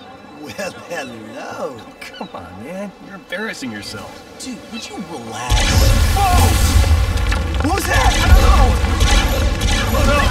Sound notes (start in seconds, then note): 5.5 blasting; 9.9 screaming